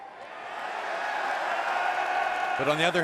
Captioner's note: cheers & applause